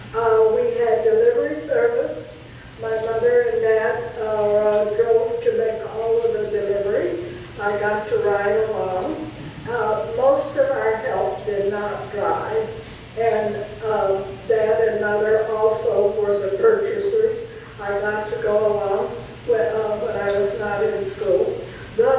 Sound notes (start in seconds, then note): none